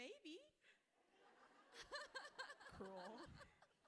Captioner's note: everyone laughing